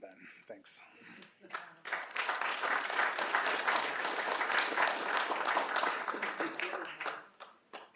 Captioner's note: applause